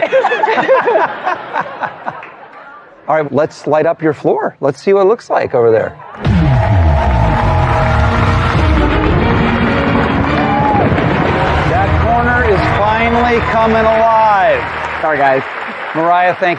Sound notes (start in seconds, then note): 0.0 laughter; 8.7 dramatic sound effects